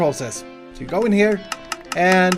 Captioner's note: deafening sound of diamonds hitting his face